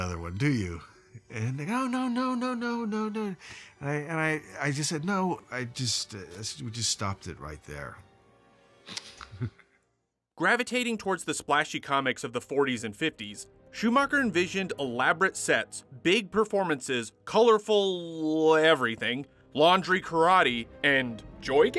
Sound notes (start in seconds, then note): 9.0 laughs